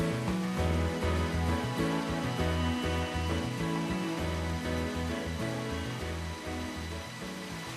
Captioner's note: following the clear sound of water flowing in between the stones